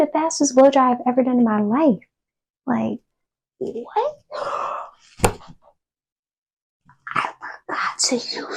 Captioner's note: gasp